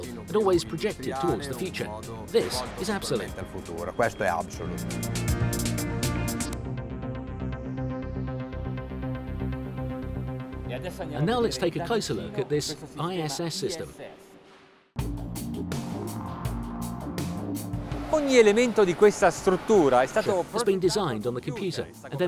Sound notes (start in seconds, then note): 3.5 speaks Italian; 5.1 dramatic music; 15.0 upbeat music; 18.2 speaks Italian